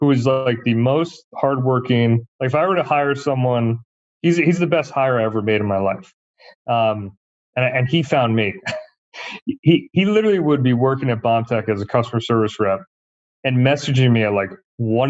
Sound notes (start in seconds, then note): 9.2 laughs